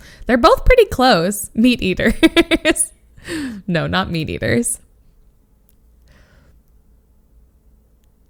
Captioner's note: laughs